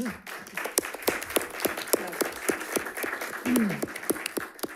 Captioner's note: audience applauding